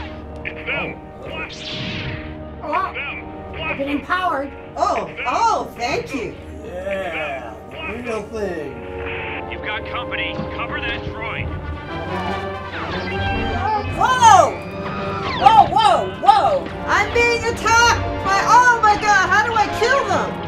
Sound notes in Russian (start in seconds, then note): 12.7 Р2-Д2 визжит